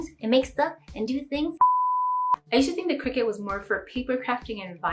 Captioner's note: beep